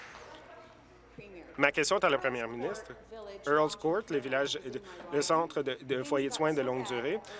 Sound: applause

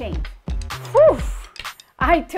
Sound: exhale

